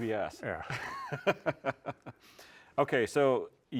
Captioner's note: chuckles